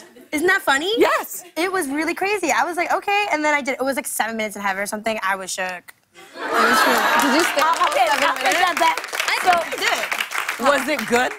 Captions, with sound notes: I was like, "Okay." And then I did it. It was like seven minutes in heaven or something. I was shook. [ Laughter and applause ] -Did you stay the whole seven minutes? -I think I did. -Was it good though?